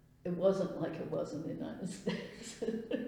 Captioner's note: laughs